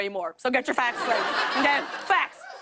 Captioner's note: laughter